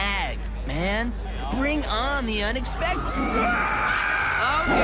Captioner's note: tiger growls